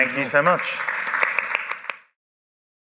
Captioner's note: applause